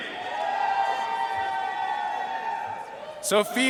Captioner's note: audience cheering and applauding